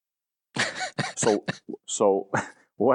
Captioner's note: laughs